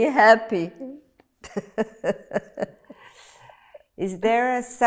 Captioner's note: laughing